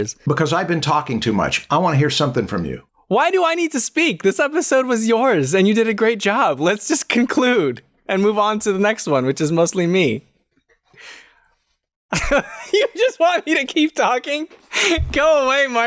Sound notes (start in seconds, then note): 12.1 laughter